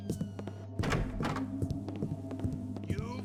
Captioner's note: door barges open, loud footsteps on wood; guard, boasting